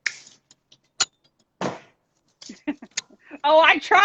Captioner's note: hands smack